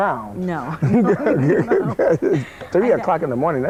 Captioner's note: laughing